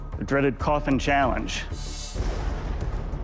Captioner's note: thunder